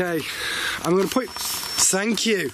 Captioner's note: alarm ringing